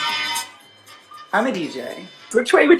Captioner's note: quieter